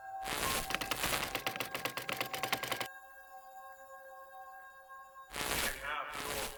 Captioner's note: keys clicking; static crackling